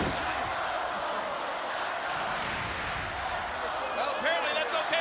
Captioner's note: audience chanting and clapping